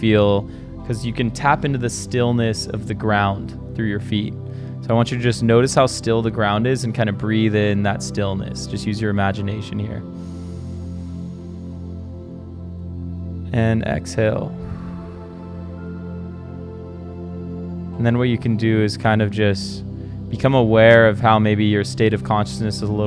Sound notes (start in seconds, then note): 10.1 inhales slowly; 14.4 exhales slowly